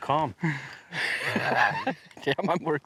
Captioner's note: both chuckling